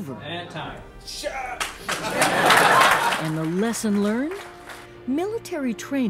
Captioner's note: laughter and applause